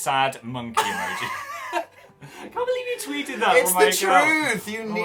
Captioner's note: both laugh